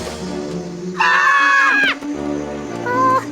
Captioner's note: all yelling